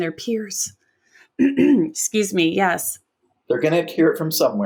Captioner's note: clears throat